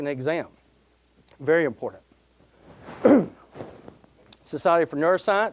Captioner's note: coughing